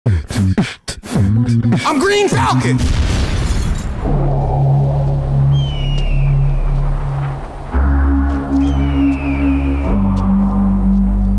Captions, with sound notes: (rhythmic music) - I'm Green Falcon! (explosion booms) (tense music) (eagle screeching)